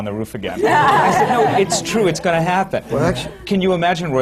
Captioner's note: laughter